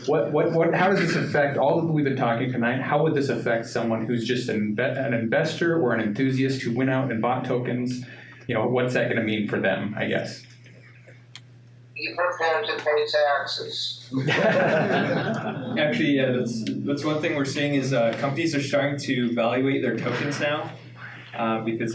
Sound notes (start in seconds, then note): 0.0 laughing; 14.1 laughing